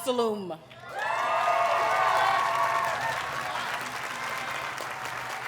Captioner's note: audience cheers and applauds